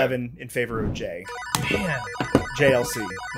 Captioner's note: video game celebration sounds